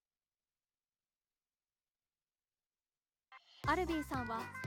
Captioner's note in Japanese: 突然の静寂